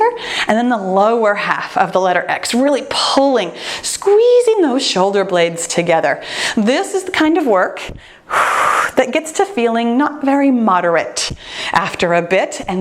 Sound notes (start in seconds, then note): 7.9 exhales